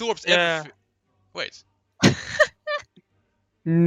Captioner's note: haha